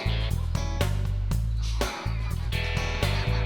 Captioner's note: laughs